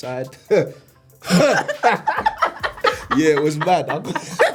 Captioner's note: laughs